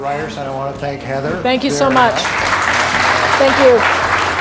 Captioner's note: applause